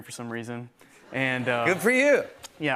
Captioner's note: laughter